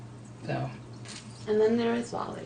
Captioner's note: voiceover